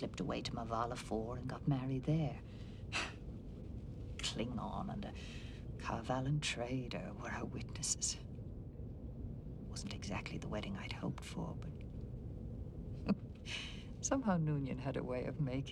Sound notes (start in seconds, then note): 13.0 chuckles